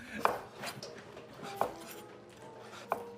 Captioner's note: knife chopping; classical music